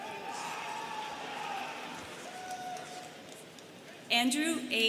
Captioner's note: students cheering